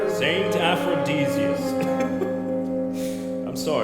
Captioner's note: chuckle